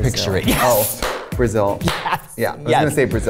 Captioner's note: claps